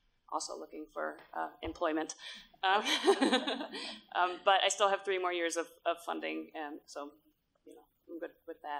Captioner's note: laughter